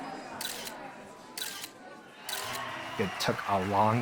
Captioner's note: people talking in background; shutter clicking